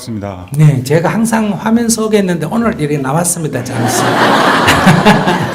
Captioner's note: audience Laughter